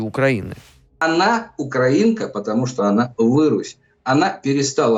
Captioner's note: slur